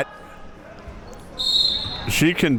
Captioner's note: whistle being blown